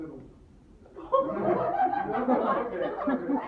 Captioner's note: laughter in audience